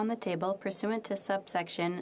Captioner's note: speaking French